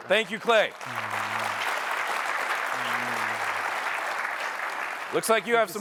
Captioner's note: applause